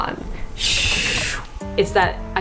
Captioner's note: imitating camera whooshing